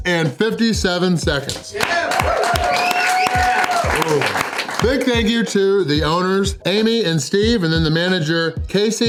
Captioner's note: clapping